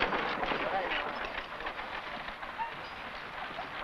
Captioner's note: men chattering